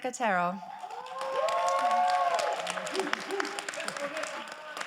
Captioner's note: crowd applauding